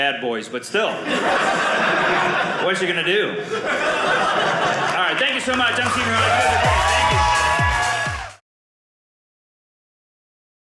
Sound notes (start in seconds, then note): 6.5 audience cheering